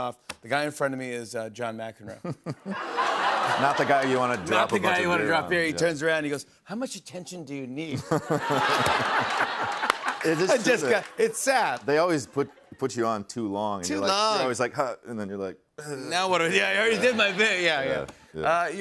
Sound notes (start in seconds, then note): 7.9 laughter